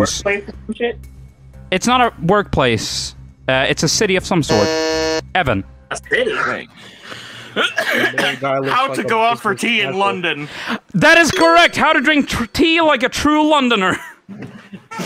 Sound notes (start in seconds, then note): 4.5 buzzes; 7.5 coughs